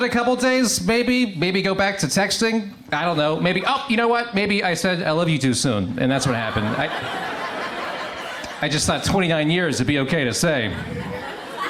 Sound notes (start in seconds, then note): 7.9 crowd laughs; 11.5 crowd laughs